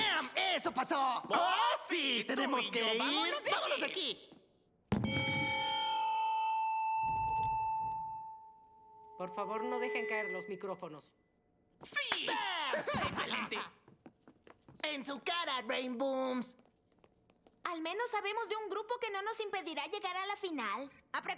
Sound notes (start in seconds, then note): 6.8 feedback